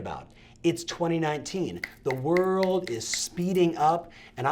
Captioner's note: quick snaps